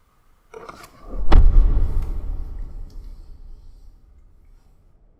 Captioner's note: booming sound; wind whistling